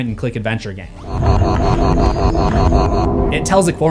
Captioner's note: distorted glitch audio